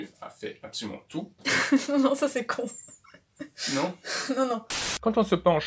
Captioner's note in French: rire